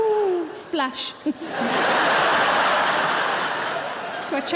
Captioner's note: audience laughing